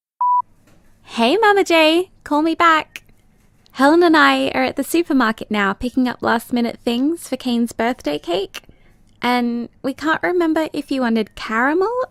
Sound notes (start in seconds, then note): 0.7 BG SFX: Supermarket sounds